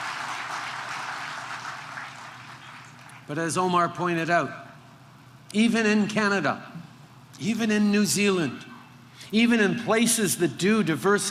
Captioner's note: applause